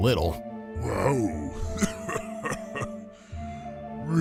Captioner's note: chuckles